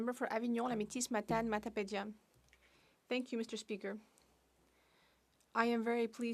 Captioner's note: speaking French